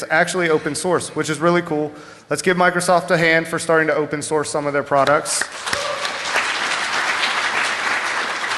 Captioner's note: applause